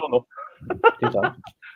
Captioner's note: laughs